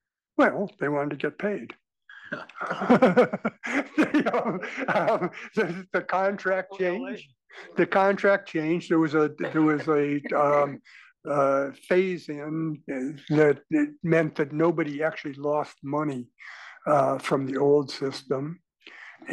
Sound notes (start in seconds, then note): 2.2 laugh